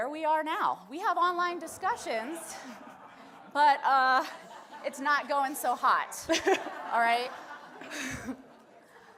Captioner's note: audience laughs